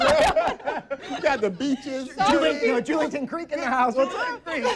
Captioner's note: laughs